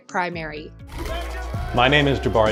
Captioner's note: crowd applauding